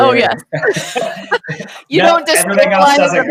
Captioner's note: laughing